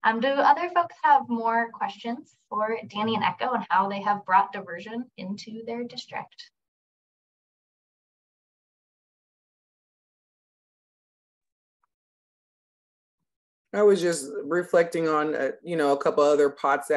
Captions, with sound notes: Do other folks have more questions for Dani and Echo? And how they have brought Diversion into their district? [Silence] - I was just reflecting on a couple of other pots